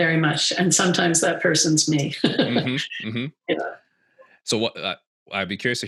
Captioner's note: chuckles